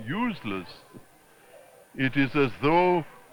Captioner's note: chuckles